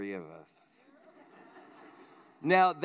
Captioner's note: laughter